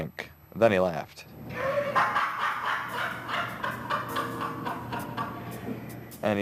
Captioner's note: laughter